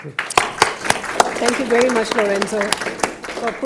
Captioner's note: audience applauding